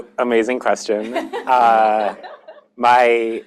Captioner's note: laughter